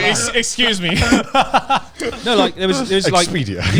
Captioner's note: laughing quickly